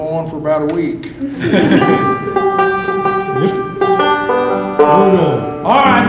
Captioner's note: laughter